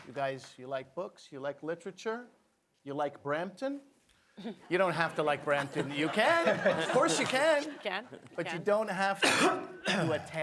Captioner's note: applause